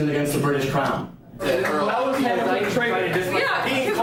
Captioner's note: students protesting